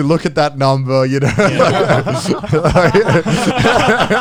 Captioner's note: all laughing